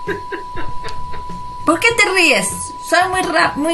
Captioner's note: hahahaa